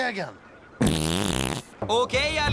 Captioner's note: farts